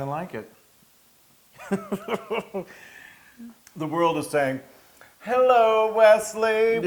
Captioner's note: laugh